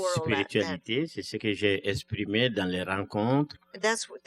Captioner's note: speaking french